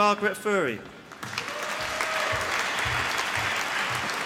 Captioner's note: applause